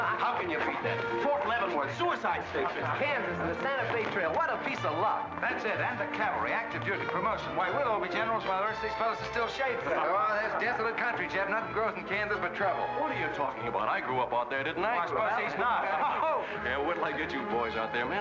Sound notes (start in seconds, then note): 9.8 men laugh; 16.0 men chattering